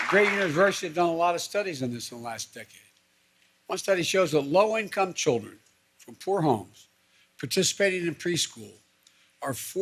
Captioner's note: applause